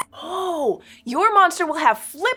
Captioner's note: squeaks squeaks